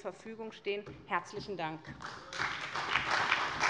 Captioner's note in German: Beifall bei der SPD